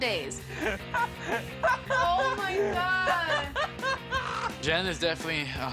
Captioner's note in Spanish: laughs